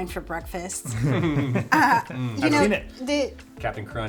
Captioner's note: laughs